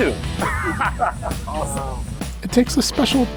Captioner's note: both laughing